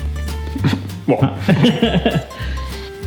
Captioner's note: chuckles